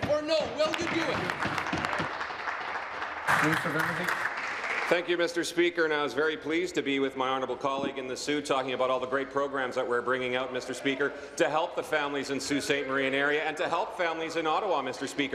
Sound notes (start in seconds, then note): 5.8 applause